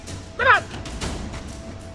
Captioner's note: thrilling music; thrilling music continues; referee speaks in Tagalog